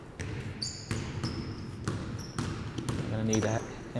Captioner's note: ball dribbling